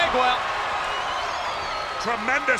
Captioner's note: spectators cheering